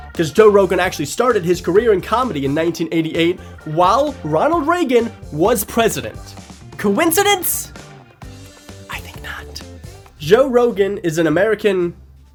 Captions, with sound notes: Because Joe Rogan actually started his career in Comedy in 1988 While Ronald Reagan was president. Coincidence? [Whispers] I think not. Joe Rogan is an American...